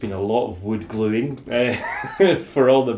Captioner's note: laughs